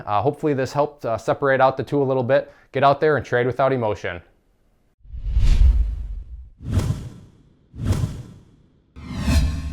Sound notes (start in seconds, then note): 5.0 whooshing